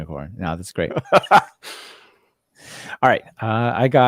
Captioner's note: laughing